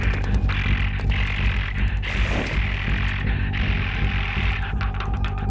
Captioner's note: grunting